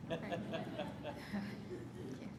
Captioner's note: laughter